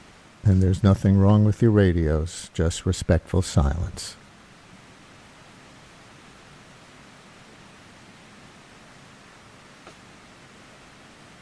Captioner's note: silence